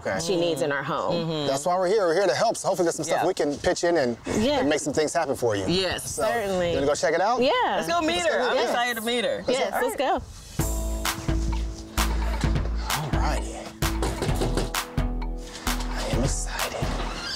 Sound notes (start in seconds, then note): 13.8 knocking at door